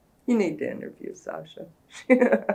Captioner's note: laughs